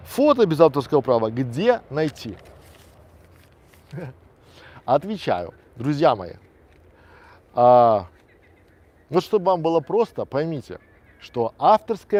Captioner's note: laughs